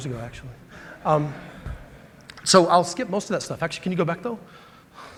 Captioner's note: laughter